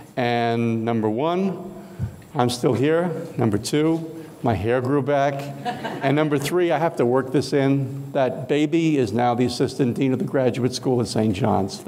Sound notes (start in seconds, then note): 5.4 audience laughing